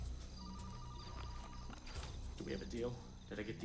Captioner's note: suspenseful music; phone ringing